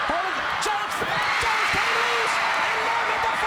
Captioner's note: crowd cheering